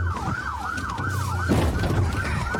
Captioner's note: bangs